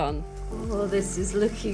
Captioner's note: sizzling